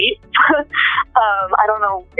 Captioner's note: laughs